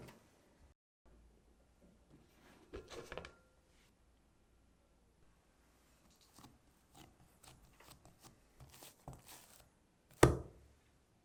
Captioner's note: folding